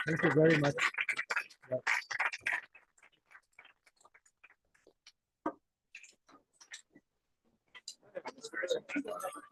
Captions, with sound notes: Thank you very much. [APPLAUSE]